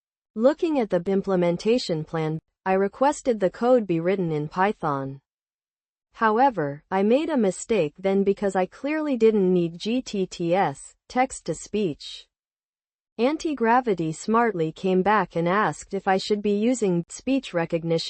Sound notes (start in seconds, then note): 11.2 text-to-speech